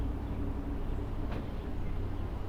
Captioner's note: none